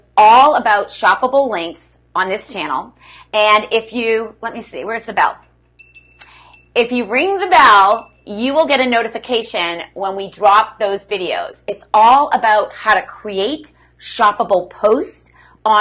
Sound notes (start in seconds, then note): 5.8 jingling